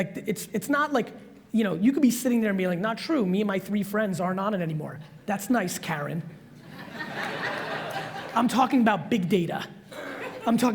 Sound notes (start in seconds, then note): 6.6 audience laughs